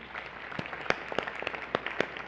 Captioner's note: applause